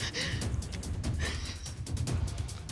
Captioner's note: sobbing